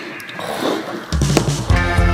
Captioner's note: sniffs